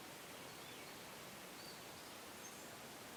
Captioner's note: none